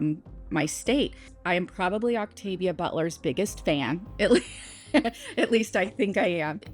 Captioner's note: chuckles